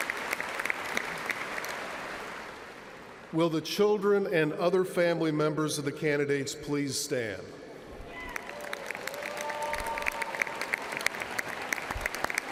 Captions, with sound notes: >> Now, how about the grand grandparents of the candidates? Please stand. [CHEERS AND APPLAUSE]